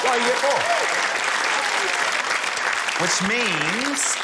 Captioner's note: cheering, applause